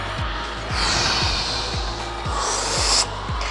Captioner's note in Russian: Выдох